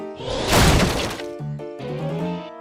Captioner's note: wood crunches